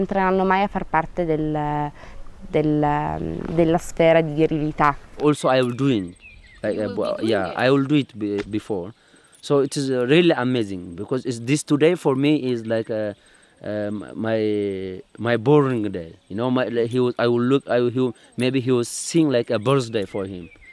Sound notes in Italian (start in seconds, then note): 5.0 Inglese